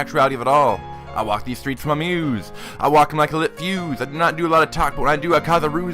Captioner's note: breathe